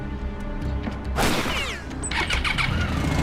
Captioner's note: gunshot